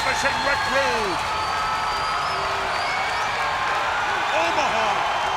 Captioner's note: audience cheering and applauding